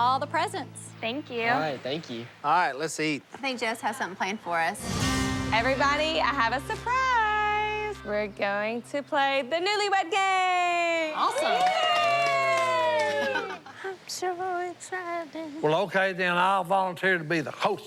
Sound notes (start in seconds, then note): 11.1 cheering